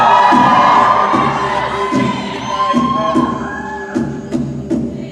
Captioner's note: cheering